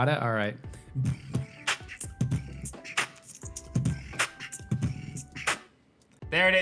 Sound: beatboxes

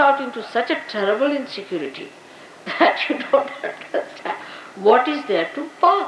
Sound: Shri Mataji laughing

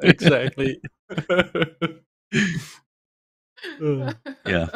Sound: laughter

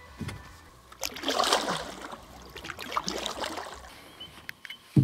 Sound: water sloshing; insects chirping

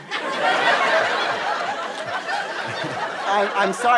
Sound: audience laughter

